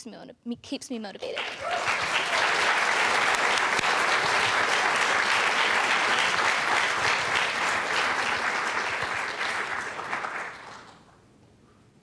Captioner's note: loud applause